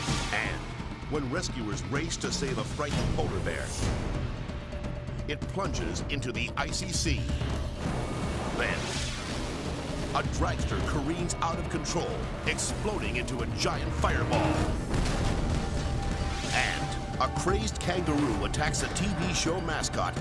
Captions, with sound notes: And, when rescuers race to save a frightened polar bear, it plunges into the icy sea. Then, a dragster careens out of control, exploding into a giant fireball. (explosion rumbles) And a crazed kangaroo attacks a TV show mascot,